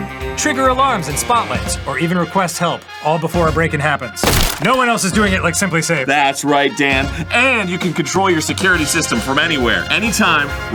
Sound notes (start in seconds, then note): none